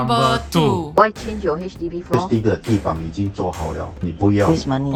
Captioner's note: in Mandarin